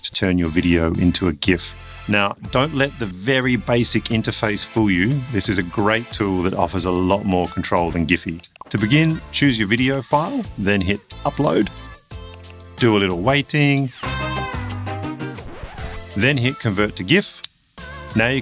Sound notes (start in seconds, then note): 13.9 salsa music; 15.2 record scratches